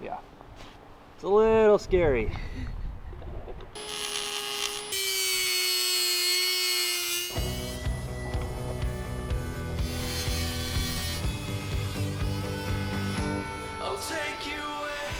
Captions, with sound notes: - Yeah, it's a little scary. (drilling) (upbeat music)